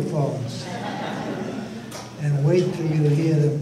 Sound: audience laughter

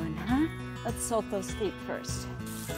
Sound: water spraying

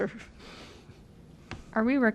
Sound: laughter

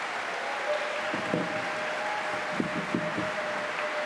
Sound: applause

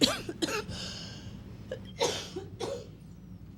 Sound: coughing

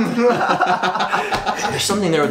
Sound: giggling

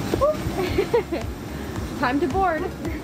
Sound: laughs

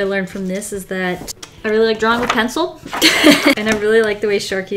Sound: laughs

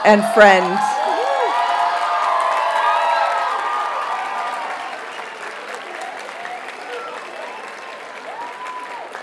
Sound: audience cheers and applauds

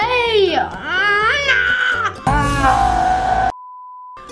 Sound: growls

